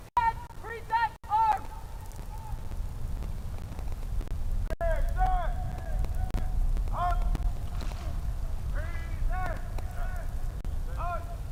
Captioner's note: shouted commands